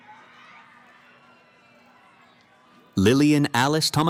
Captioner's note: cheering